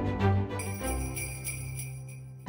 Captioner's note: theme music; bell ringing